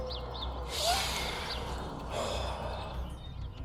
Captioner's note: breathes